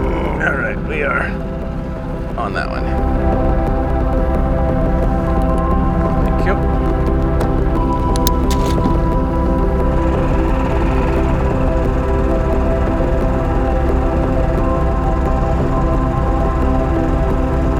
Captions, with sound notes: All right, we are on that one. Thank you. (engine rumbling) (mellow music)